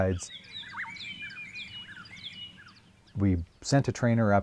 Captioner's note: birds sing